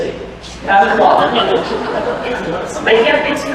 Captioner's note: laughter